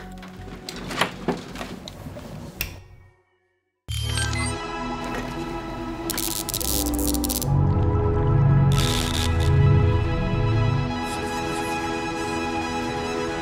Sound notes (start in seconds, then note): 2.8 light clicks; 6.0 electricity buzzing; 6.5 light music